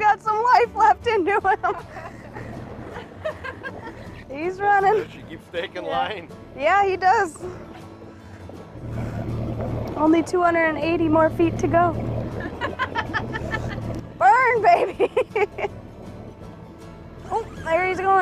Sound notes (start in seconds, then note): 12.4 laughs